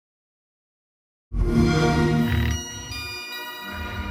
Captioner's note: xbox sound